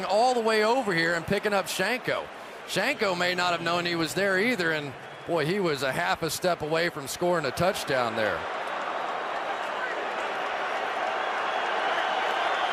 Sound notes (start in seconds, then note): 9.7 crowd cheering